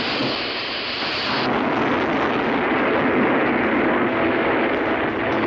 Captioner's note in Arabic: الديناميت ينفجر